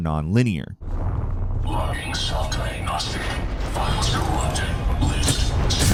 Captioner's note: character speaks muffly